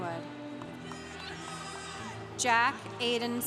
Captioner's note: congregation cheering